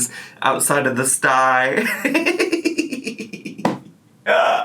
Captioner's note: laughs